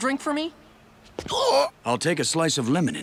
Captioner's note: gasping